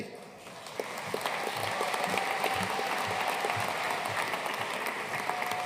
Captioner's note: audience cheering and applauding